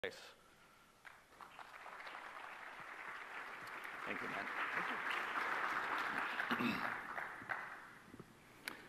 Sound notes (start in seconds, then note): 1.0 audience claps